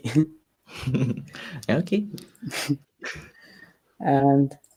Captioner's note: both laughs